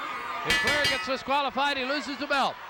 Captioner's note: bell rings